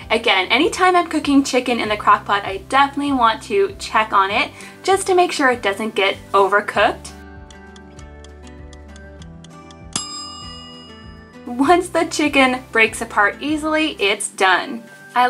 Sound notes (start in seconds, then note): 7.3 timer ticking; 9.9 timer dings